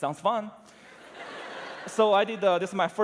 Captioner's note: laughter